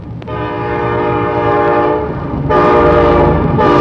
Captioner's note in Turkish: Tren düdüğü ve raylardaki sesi